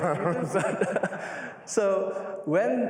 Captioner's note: laughter